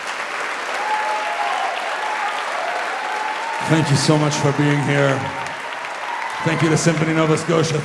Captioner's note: applause